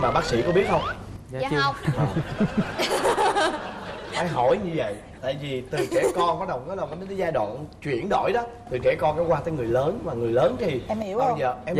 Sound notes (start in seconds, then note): 1.9 laughing